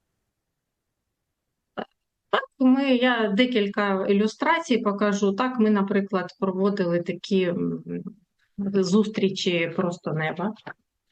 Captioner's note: foreign language